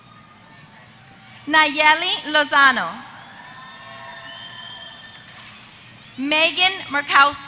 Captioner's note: applause